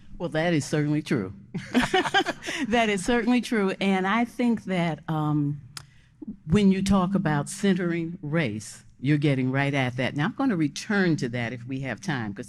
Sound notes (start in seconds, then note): 1.6 laughing